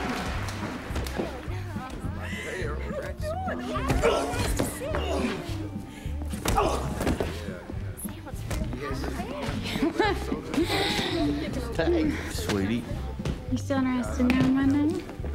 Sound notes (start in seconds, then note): 9.1 laughing